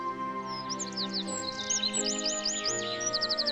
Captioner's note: birds chirping